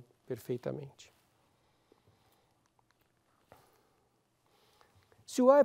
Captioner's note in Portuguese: pausa sonora